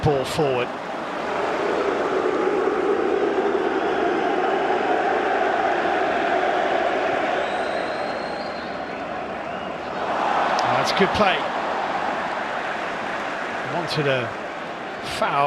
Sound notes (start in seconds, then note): 4.7 audience oohs